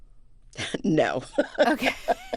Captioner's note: laughter